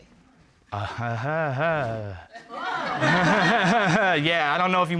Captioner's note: laughing sarcastically; audience exclaims, laughs